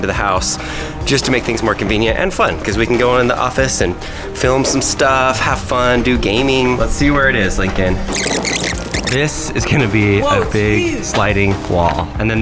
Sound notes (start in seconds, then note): 8.1 fast forward squeal